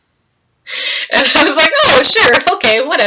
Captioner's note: laughs